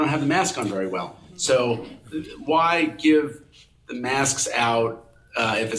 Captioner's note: people chuckling